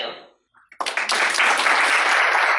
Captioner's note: applause